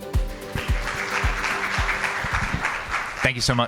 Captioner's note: audience applauding